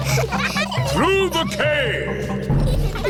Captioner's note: echoing